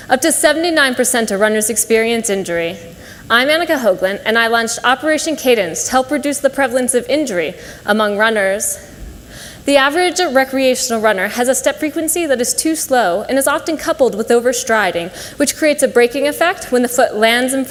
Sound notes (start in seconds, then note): none